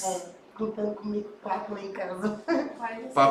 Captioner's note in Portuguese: risos